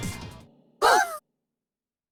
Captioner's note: surprised gasps